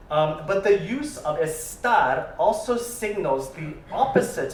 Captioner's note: spanish